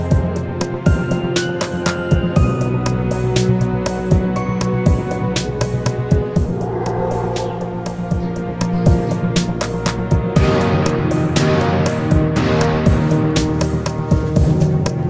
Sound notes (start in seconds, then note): 6.2 howls